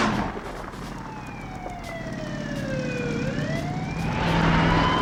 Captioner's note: gunshots popping; siren alarming